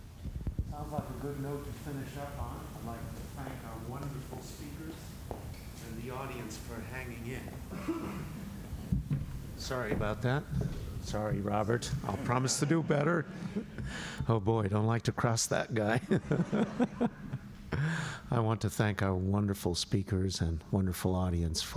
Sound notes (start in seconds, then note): 15.8 laughter